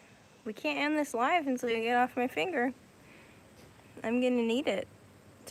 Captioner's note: none